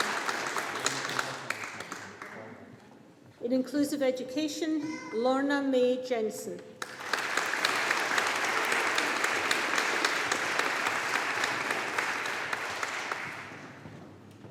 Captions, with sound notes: In Inclusive Education. Lorna May Jensen. (AUDIENCE APPLAUDING)